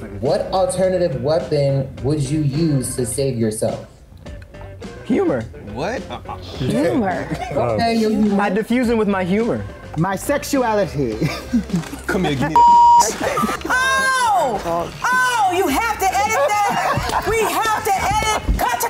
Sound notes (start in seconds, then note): 12.5 beep; 13.7 several laughing